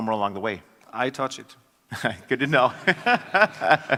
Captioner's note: laugh